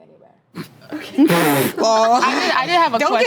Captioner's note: teens laughing